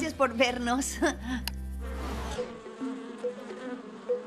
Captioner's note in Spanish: abejas zumbando